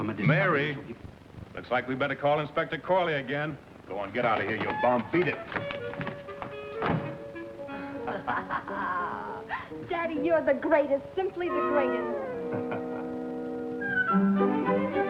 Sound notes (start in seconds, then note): 5.6 playful music; 6.8 door slams; 8.0 laughter